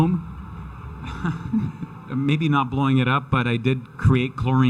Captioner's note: chuckles